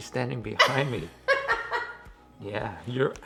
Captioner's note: giggles